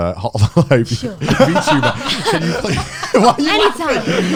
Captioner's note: laughs